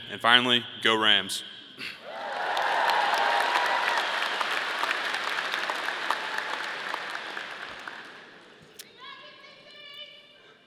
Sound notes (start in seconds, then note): 2.0 audience cheering; 2.0 audience applauding